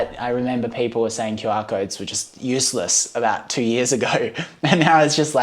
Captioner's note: laughing